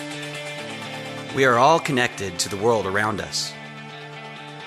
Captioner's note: man reads on-screen graphics